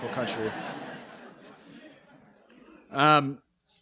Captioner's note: chuckling